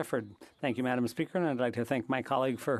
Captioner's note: speaking French